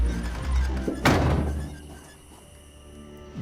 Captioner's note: door slams